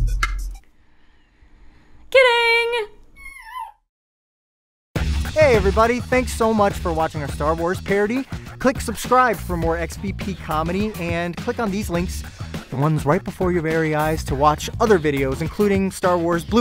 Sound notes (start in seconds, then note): 0.1 awkward Silence. Music Cuts out; 3.3 dog moan